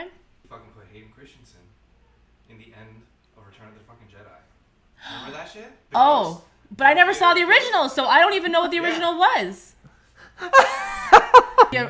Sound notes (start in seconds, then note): 5.0 gasp; 10.4 laughing